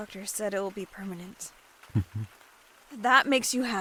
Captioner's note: happy hum